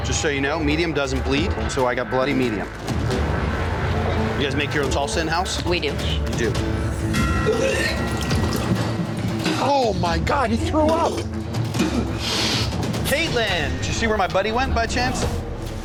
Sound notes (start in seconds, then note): 2.7 tense music continues; 7.4 retching; 11.8 spitting